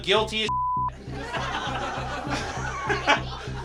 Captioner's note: beep; audience laughs; laughs